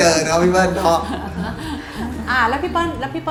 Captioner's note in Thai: หัวเราะ